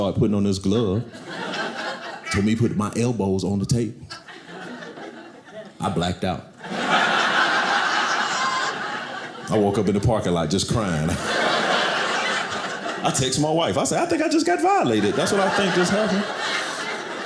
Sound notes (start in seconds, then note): 6.6 audience laughing